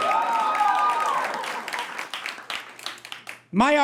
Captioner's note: cheering intensifies